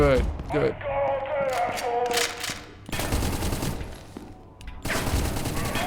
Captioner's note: gunshots